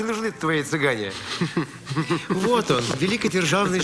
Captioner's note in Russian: посмеивается